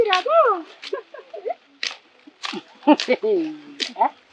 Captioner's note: laughing